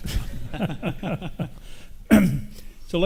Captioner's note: all laugh